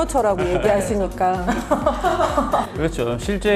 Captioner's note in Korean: 어허허허